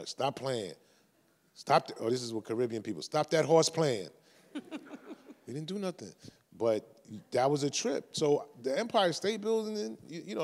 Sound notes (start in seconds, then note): 4.5 chuckles